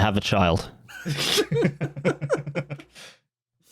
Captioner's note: laughter